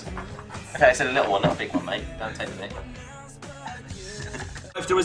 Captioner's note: laughing